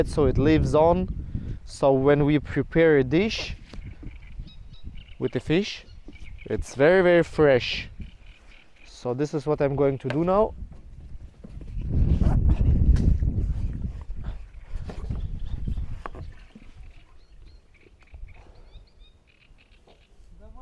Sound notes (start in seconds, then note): 12.0 wind blowing